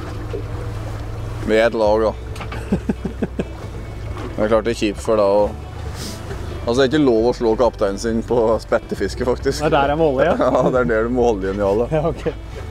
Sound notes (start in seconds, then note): 2.6 giggles; 10.2 giggle